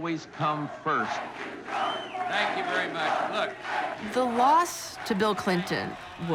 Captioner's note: chanting